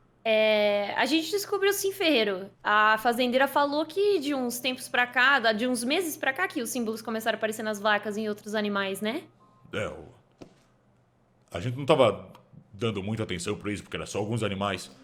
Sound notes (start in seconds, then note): none